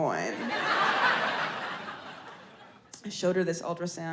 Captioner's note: audience laughs